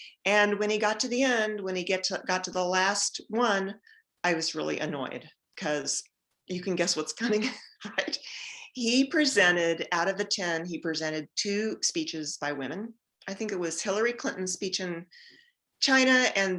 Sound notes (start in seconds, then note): 7.2 giggles